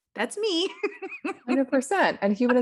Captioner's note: laughs